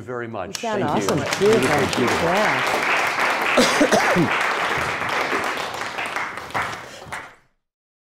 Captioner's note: audience clapping